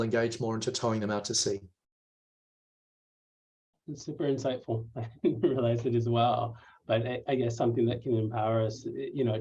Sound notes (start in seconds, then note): 5.0 laughter